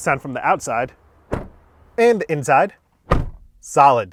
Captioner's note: door closing; door closing